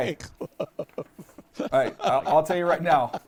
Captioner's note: laughs